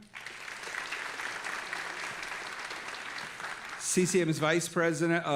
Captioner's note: audience applauding